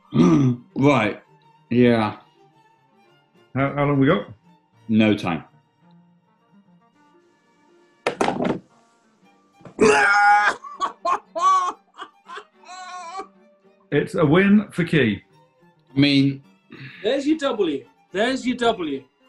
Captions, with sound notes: [GASPS] Right. Yeah. How long have we got? No time. [CHEERS AND LAUGHS] It's a win for Key. I mean... There's your W. There's your W.